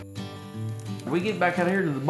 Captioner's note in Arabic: فرقعة النار